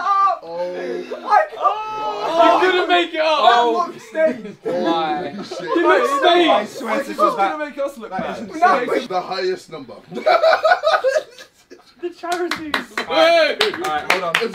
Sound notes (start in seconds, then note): 10.1 laughs; 12.2 clapping